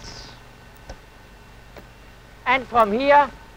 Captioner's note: clicking